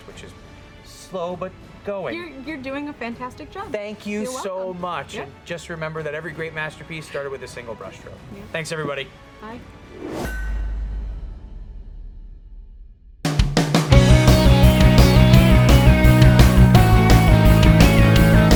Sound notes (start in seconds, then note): 10.5 metal clanking; 13.8 uptempo electronic music